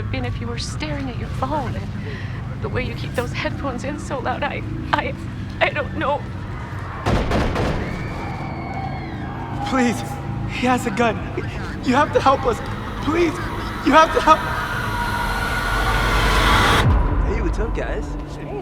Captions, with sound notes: been if you were staring at your phone. The way you keep those headphones in so loud-I-I-I-don't know. [gunshots] Please, he has a gun. You have to help us! Please! You have to help- Hey, what's up guys?